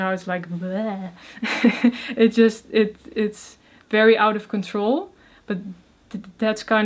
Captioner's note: laughs